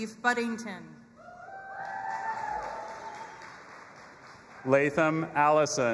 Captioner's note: audience applauding and cheering